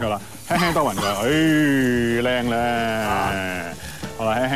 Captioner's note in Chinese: 咳咳